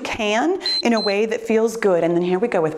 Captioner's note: timer beeps